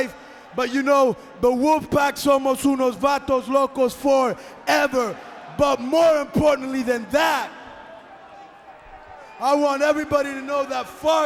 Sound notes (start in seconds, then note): 2.1 speaking in foreign language